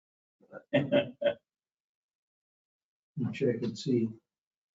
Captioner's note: laughs